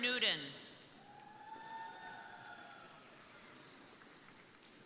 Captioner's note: crowd cheering